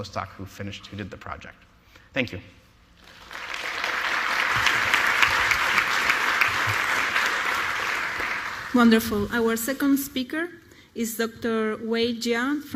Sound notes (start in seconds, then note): 1.2 applause